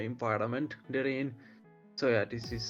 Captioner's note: none